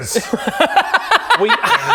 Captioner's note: surprised laugh